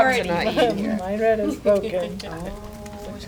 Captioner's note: laughter